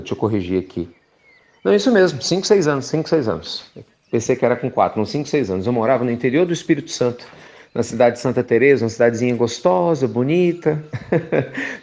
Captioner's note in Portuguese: Risos